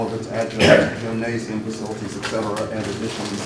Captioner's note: cough drowns out speaker